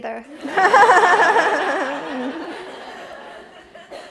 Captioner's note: audience laughs